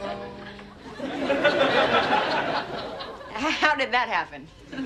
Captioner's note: audience laughs